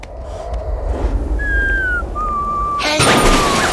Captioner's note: whistling tunelessly